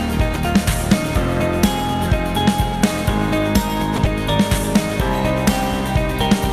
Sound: none

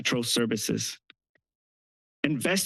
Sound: pause

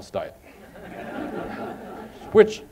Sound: laughter

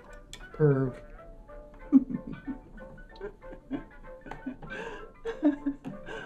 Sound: laughing

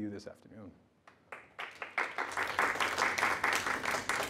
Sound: applause

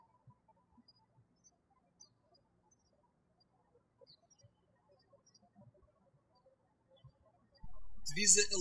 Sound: birds chirping

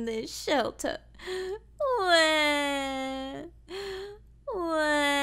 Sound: Lavender crying

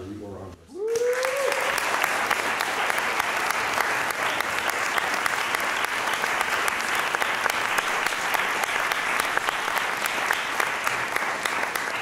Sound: applause

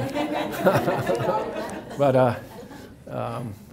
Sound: audience laughs

